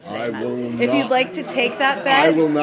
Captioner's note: laughter